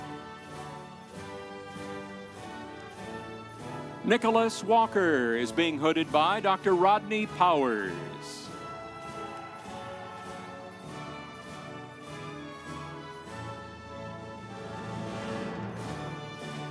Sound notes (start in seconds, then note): 9.5 audience cheering; 9.5 instrumental music